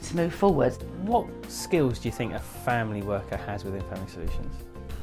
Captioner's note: voiceover